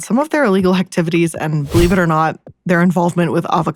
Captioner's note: air whooshes